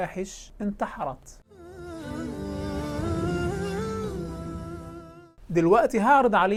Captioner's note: logo and sound effect